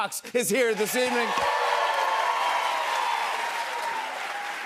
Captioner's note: cheers and applause